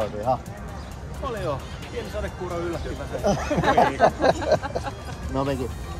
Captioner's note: laughter